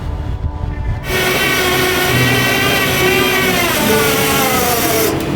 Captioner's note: tow truck winch whirring